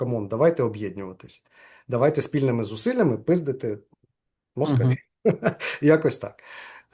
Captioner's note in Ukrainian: сміється